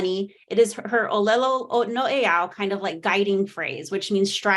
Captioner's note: speaking Hawaiian